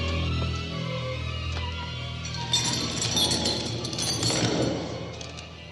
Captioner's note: heavy chains clanking